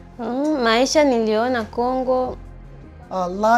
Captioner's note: speaks in Swahili